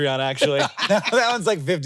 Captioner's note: Jason laughing